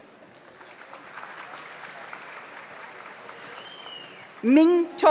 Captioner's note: audience applauds